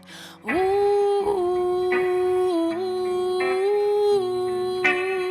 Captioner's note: continues humming vocals